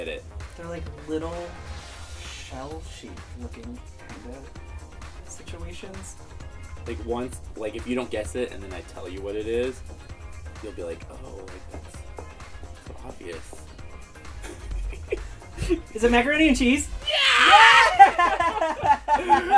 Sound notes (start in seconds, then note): 14.3 laughs